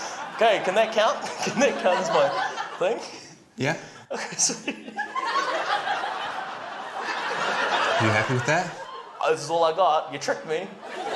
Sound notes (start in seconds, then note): 6.0 laughter